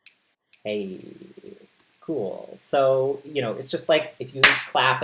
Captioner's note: finger snap with echo